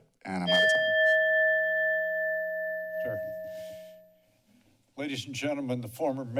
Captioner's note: bell rings